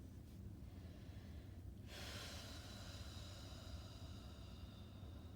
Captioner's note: breathing deeply